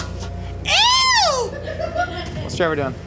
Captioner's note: crew member laughing; crew member screaming; crew member laughing